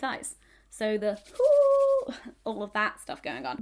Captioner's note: hands rubbing